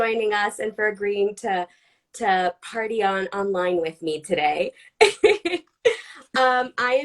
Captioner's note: laughs